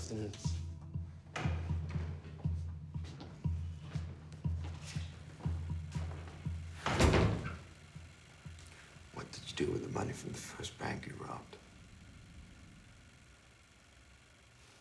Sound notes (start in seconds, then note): 6.8 door slams; 7.3 camera whirs